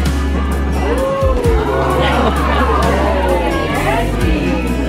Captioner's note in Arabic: الجميع يهتفون